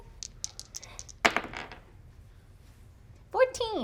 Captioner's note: die rolls